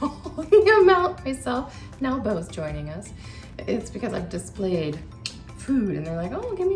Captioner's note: laughing